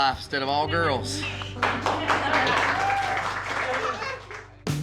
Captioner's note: crowd claps, cheers